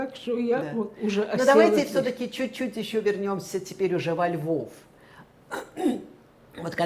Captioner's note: clears throat